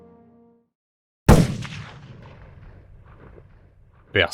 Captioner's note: shots fired